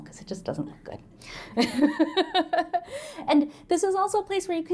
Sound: laughter

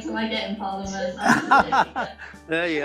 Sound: laughter

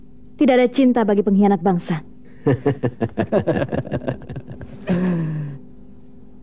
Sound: laughs

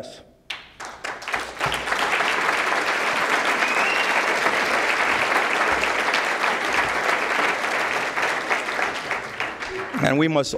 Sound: applause

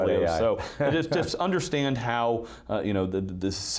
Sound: chuckling

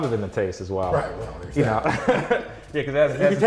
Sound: laughs

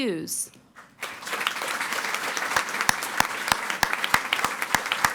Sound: audience applauding

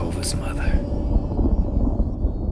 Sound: thunder rumbling

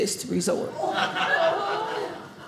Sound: audience laughing

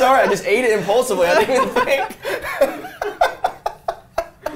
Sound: all laughing

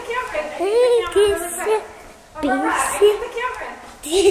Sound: speaking in toddler

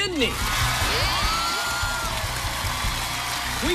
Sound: cheers and applause

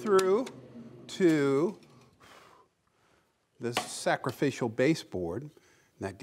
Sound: blowing

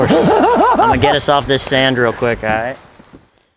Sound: laughter

